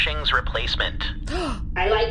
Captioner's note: Dar gasps